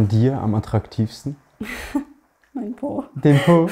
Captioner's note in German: Belustigter Laut